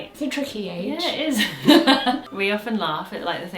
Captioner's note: laughs